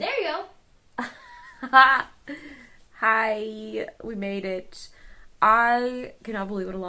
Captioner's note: laughing